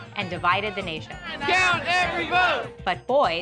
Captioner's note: chanting